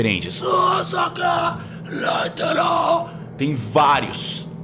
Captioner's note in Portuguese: Grunhido